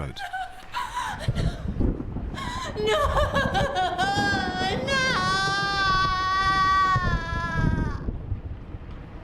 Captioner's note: woman sobs